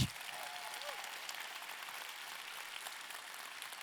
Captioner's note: audience clapping